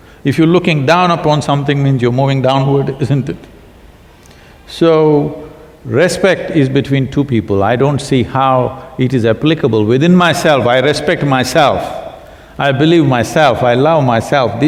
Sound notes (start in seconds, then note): none